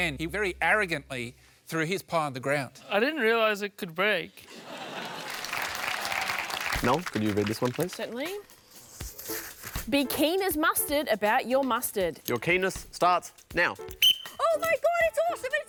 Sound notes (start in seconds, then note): 4.8 applause; 13.9 whistle blows